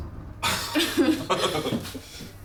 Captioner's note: laughs